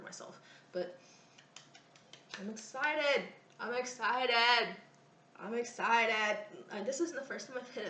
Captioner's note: claps hands